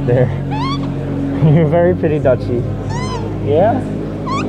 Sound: squeak

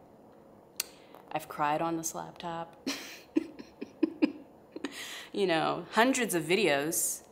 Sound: laughs

